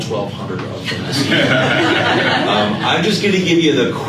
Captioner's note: laughter